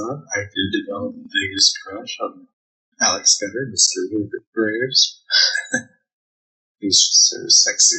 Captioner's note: chuckling